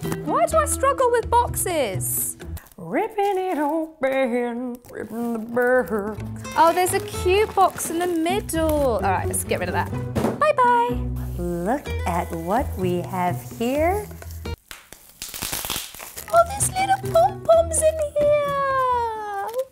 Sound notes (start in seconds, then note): 15.2 bubble wrap pops